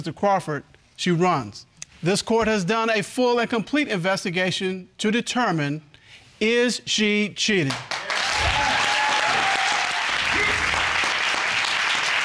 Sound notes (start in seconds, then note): 7.9 audience cheering